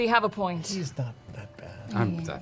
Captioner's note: whispers